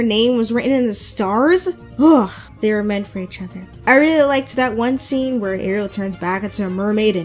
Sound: sighs

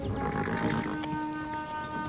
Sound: horse snorts

